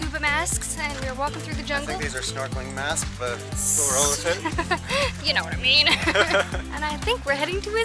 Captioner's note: laughter